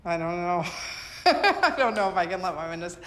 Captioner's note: laughs